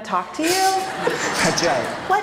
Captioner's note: laughter